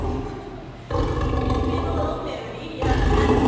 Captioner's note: lion growl; lion growls